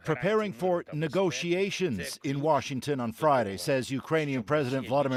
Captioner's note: speaking alternate language